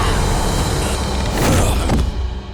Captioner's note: thudding